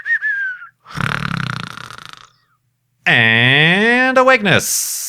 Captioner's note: snoring